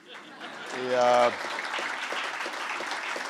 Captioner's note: laughter and applause